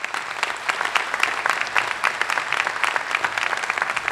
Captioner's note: applause